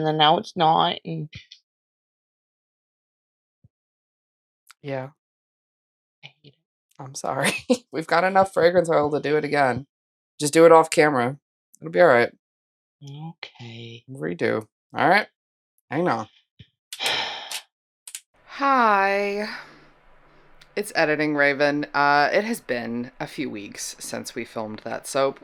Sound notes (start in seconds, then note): 17.0 sigh